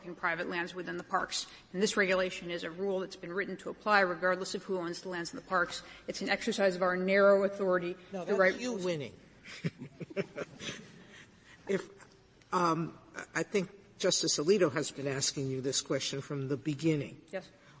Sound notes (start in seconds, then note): 9.4 laughter